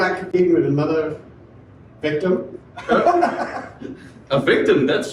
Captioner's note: laughs